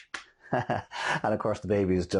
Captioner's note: laughing